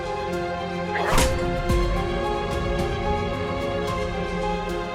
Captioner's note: Aleks grunting